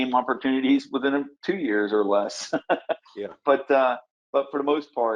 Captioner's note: laughs